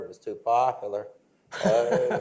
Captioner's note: laughter